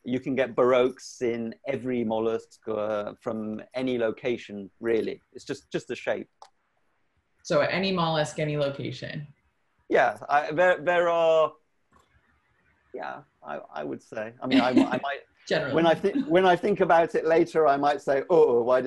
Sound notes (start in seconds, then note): 14.3 laughs